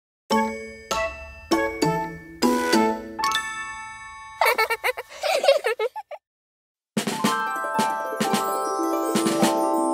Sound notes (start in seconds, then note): 0.3 whimsical music; 4.4 Noodle and Blossom laughing; 7.0 upbeat music